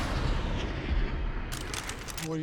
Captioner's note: swooshing; guns clicking